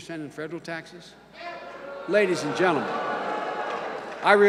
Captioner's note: boos